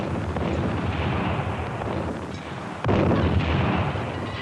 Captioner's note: artillery booming